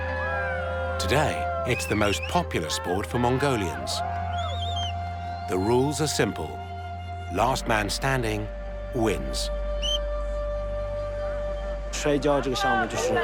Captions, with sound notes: Today, it's the most popular sport for Mongolians. The rules are simple-- last man standing wins. [whistle blows]